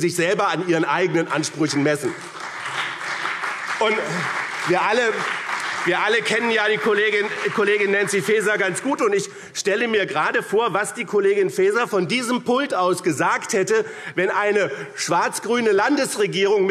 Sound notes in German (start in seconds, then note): 1.3 Beifall BÜNDNIS 90/DIE GRÜNEN und CDU